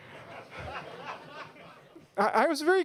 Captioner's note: laughter